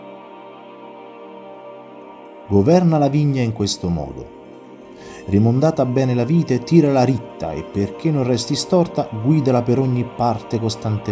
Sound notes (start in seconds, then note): 4.1 voice-over